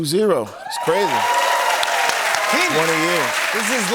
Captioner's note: cheers and applause